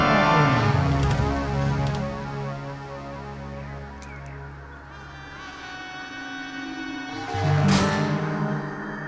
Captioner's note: opening and closing door sounds